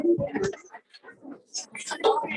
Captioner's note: background chatter